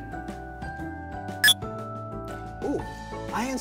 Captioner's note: mind-blower beep